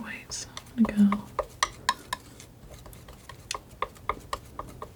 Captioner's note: tapping